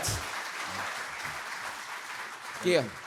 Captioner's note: applause